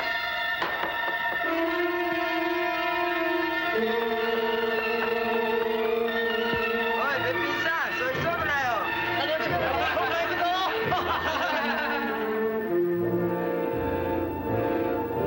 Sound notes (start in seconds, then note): 0.2 dramatic music; 7.2 speaking in foreign language; 9.0 laughing